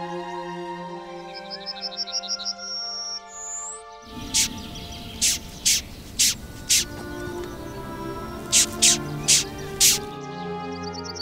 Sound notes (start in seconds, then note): 4.0 sounds of Lined June beetle; 10.3 soft music